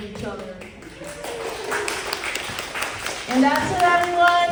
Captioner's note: applause